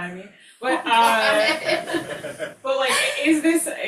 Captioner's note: all laughing